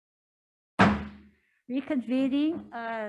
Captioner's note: gavel bangs